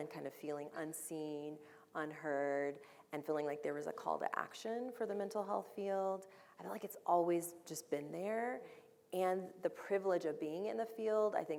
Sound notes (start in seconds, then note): none